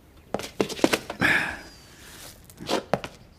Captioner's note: grunts